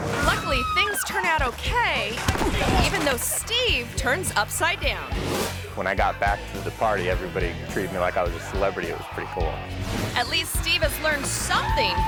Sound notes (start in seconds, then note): 2.2 thuds